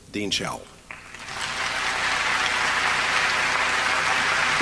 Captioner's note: applause